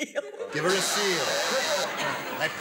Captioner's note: buzzer